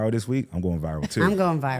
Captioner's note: participant chuckling